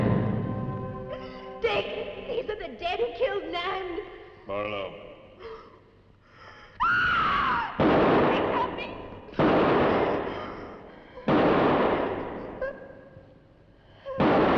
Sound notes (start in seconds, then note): 0.0 door thudding; 6.8 Pat screaming; 7.7 gun firing; 9.2 pat; 11.2 gun firing; 12.6 Pat whimpering